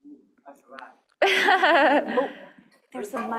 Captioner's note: laughter